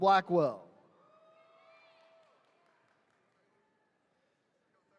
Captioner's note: attendees cheering